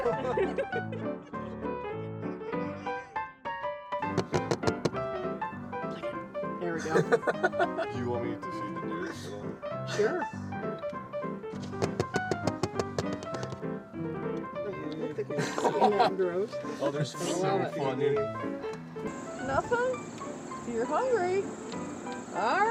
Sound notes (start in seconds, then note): 0.0 laughter; 0.3 juanty music; 6.8 laughter continues; 10.1 juanty music